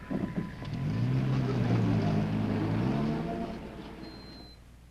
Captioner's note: car engine revving